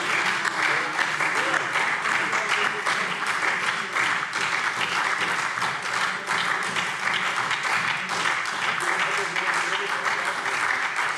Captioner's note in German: Anhaltender Beifall SPD - Vereinzelter Beifall BÜNDNIS 90/DIE GRÜNEN